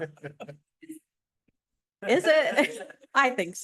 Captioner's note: laughter